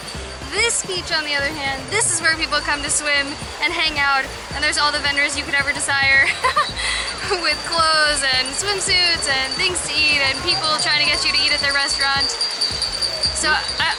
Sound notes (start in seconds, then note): 6.2 laughter